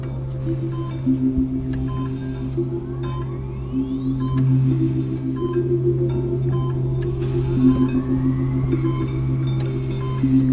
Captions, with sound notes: I'll just need a signature down the bottom there. (machines beeping)